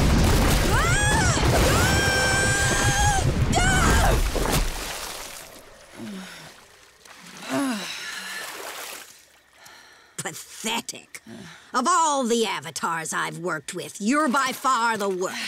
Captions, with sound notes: [screaming] [sighing] Pathetic. Of all the Avatars I've worked with, you're by far the worst.